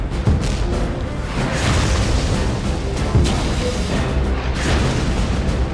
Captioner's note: explosions booming